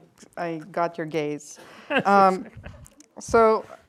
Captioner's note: laughs